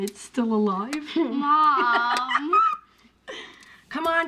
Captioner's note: laughs